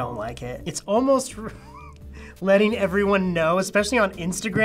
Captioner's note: chuckling